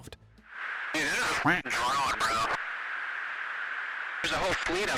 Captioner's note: quacks